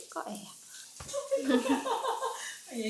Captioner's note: sound of sister laughing